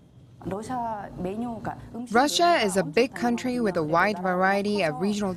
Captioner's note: Korean